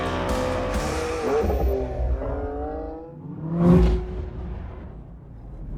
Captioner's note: car engine revving